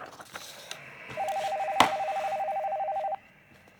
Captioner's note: ring tone